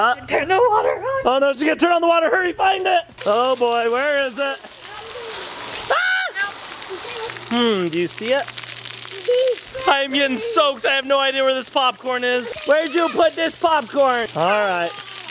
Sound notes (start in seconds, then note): 5.2 water splashing; 5.8 screaming